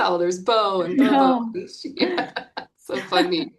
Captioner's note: chuckles